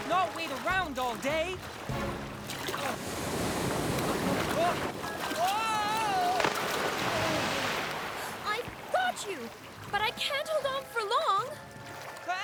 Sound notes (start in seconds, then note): 6.4 splash